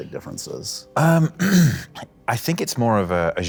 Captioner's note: clears throat